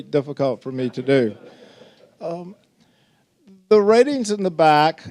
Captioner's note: audience laughing